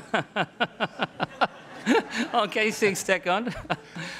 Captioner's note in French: rires